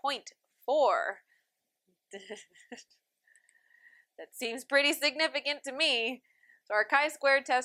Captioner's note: laughter